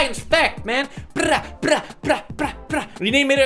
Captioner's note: pewdiepie eating sounds